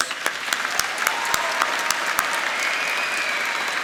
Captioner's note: applauding